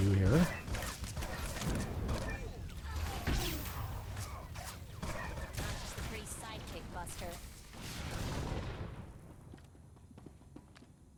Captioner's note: gunshots